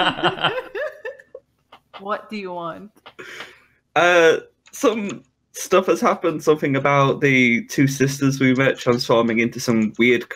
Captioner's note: laughter